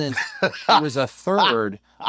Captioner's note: laugh